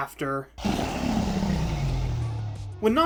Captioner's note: ender dragon roar